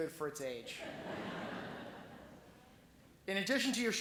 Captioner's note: laughing